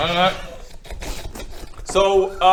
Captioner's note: slurp